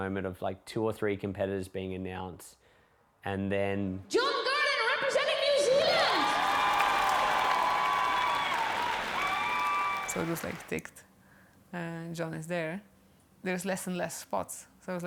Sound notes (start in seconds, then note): 7.9 applause; 7.9 cheering